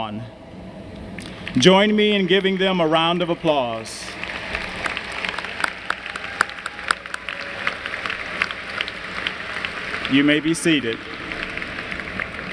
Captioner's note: applause